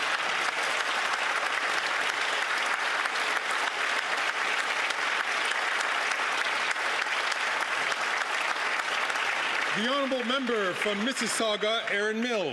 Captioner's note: some Applause